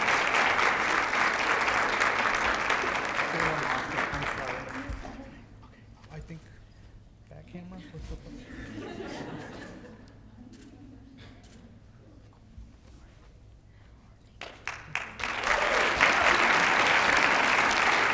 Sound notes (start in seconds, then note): 7.8 laughter; 14.4 applause